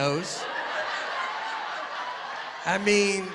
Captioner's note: laughter